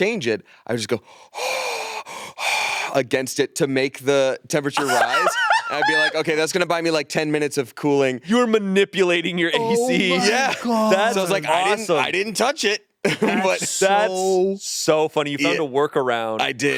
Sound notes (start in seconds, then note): 1.1 exhaling; 4.7 laughs